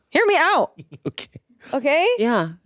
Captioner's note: laughs